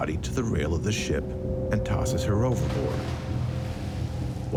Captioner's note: water sloshing